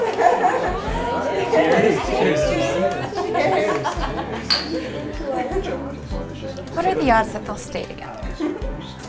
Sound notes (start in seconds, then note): 0.0 group laughing; 4.4 glasses clink